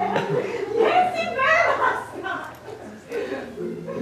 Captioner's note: chuckles